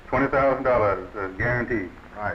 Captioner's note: none